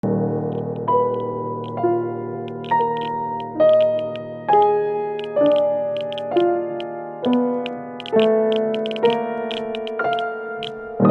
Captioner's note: music, the crackle of a geiger counter